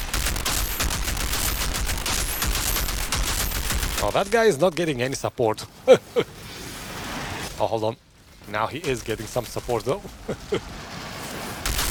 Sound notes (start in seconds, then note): 5.8 laughs